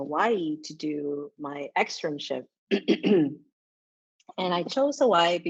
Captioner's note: coughs